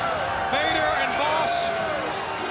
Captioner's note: crowd chatter